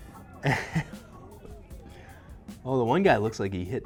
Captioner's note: chuckling